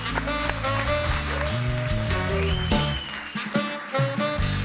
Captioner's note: audience cheering and applauding; bright music